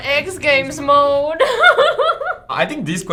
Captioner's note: laughs